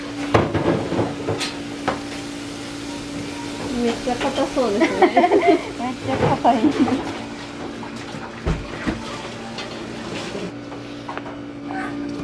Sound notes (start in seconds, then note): 4.3 laughs; 4.7 laughter